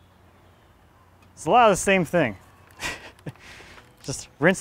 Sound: laughs

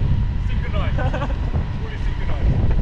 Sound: laughs

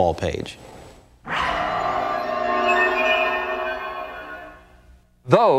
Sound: eerie whooshing

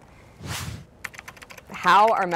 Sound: air whooshing; keyboard clicking

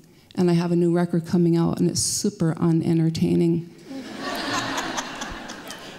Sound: laughter

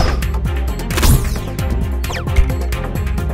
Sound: pew; pew pew; dramatic music

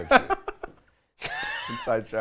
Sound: laughs

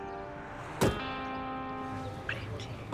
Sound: car door closes

